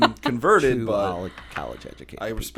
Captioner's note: laughter